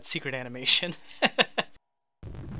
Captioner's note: laughs